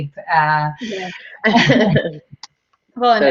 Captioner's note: all chuckling